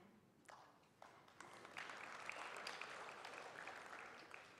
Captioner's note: applause